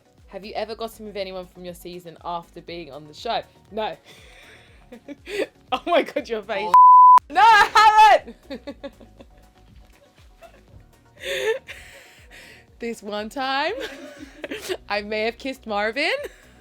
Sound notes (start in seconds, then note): 4.9 laughs; 6.6 beep; 7.3 laughs